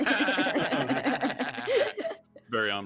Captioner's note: group laughing